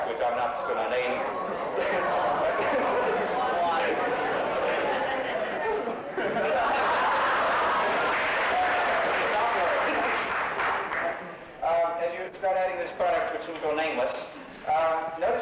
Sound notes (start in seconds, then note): 2.5 laughing; 5.2 laughing and clapping